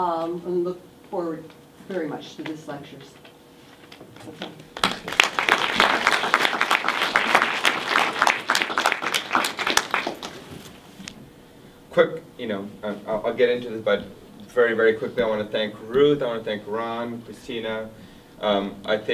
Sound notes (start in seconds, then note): 4.7 everyone applauds